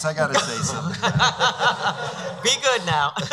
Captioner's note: laughing